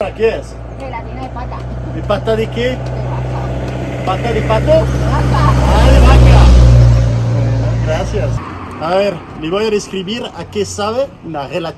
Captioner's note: laughter